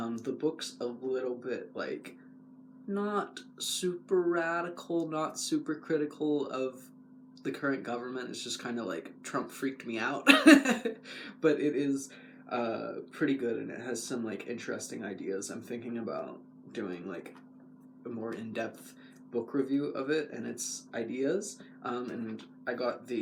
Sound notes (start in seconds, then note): 10.2 laugh